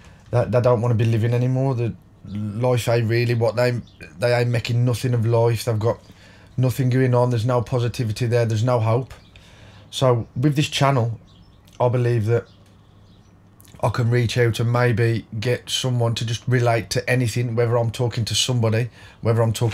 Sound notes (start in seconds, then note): 12.7 silence